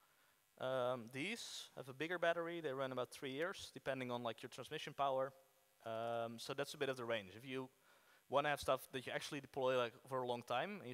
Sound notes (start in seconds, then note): none